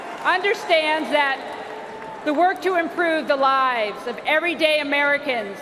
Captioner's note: cheers and applause